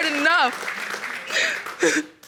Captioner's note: sobbing